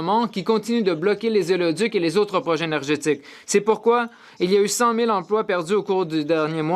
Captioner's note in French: voix de l'interprète